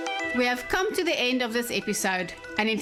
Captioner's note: narrating